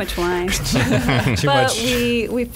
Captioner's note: laughs